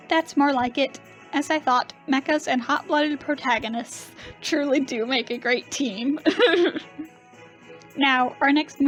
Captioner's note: laughs